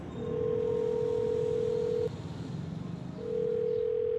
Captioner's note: phone ringing